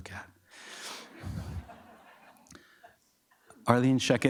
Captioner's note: audience members laughing